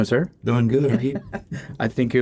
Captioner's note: laughter